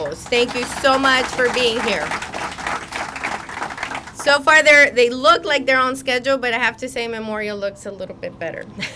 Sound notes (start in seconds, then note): 2.7 crowd applauding